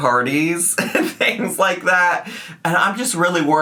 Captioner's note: laughs